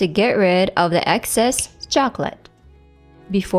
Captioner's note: snaps fingers